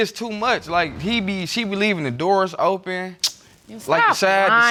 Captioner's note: clicks tongue